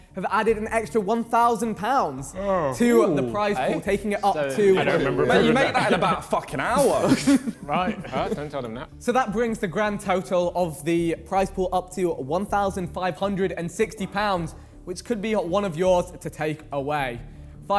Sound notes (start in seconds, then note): 2.2 men chattering; 7.1 men laughing